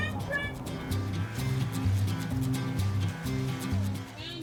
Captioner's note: corn brushing